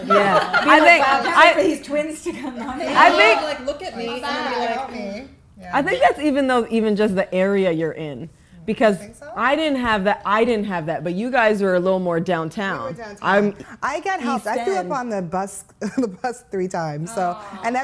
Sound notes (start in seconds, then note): 0.0 laughing; 4.4 women talking in unison